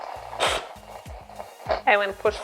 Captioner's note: steam hisses